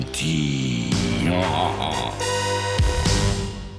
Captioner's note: laughing